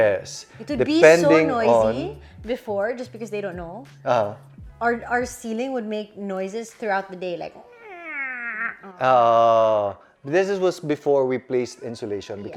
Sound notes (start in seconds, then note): 7.5 squeaky noise